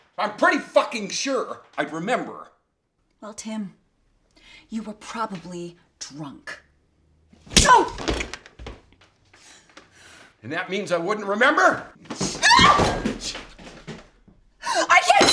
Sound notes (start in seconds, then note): 7.5 slap thuds; 12.3 Carol screams